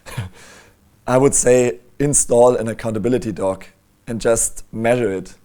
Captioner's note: laughs